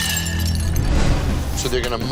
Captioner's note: dishes clatter; dramatic music